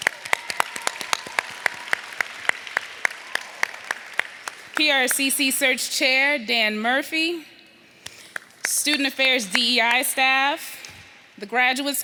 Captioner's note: applause